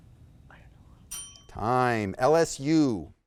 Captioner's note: faintly speaking; bell ringing